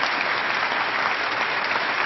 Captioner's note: applause